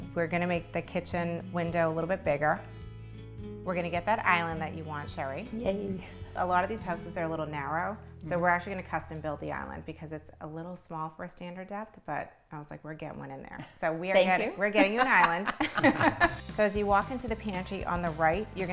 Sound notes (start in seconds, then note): 14.2 laughing